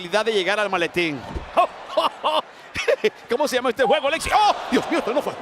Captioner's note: laugh